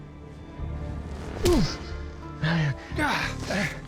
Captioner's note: punch